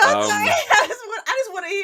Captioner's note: laughter